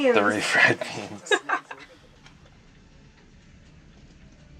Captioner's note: laughs